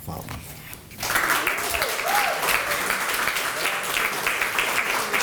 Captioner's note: applause